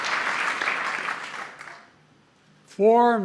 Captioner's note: applause